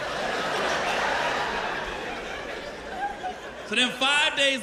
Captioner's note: laughter